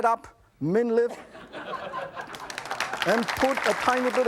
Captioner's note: audience laughs and applauds